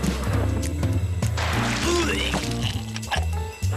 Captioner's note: vomits